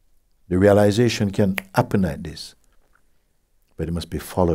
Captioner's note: snaps fingers